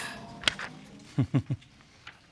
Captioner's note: chuckles